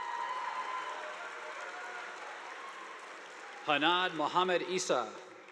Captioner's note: audience applauding